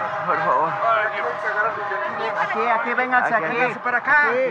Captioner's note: frightening screams